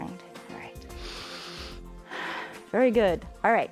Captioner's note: inhales and exhales